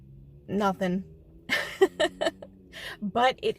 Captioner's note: nervous Laugh